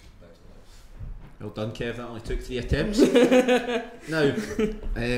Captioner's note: laughs